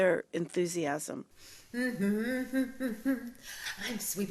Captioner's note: teacher humming